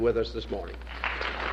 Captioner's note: applause